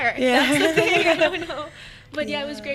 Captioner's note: laughing